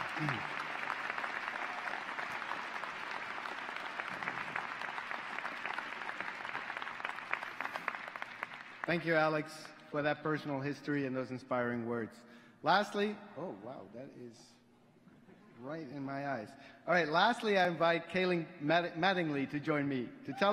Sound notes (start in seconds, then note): 4.1 applause